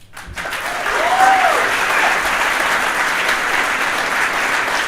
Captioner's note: audience applauding